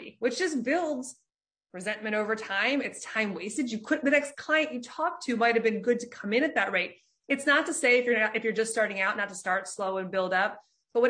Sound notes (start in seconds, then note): none